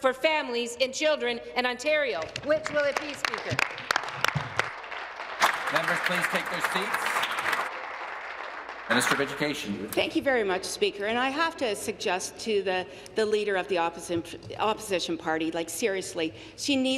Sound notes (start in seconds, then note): 8.1 applause